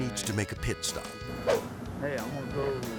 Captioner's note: air swoosh